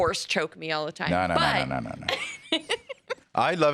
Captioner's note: laughs